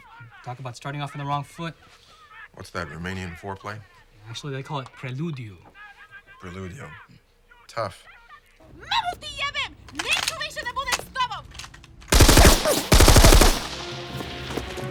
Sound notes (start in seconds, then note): 8.7 woman yelling